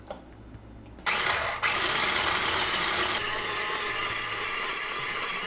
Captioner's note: blender whirring